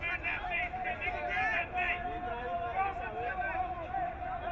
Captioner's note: crowd cheering